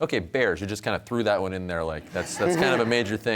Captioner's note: audience laughs